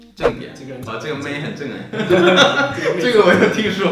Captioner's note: laughing